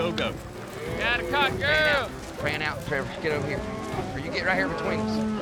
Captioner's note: shouting; shouting, mooing